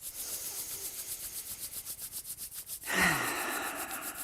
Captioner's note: breathing deeply